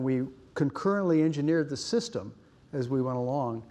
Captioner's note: none